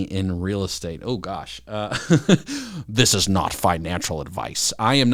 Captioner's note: laughs